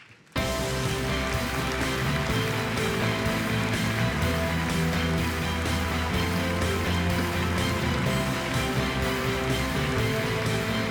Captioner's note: applause